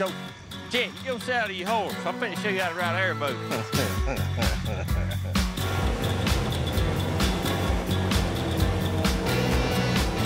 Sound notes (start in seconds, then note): 5.6 motor whirring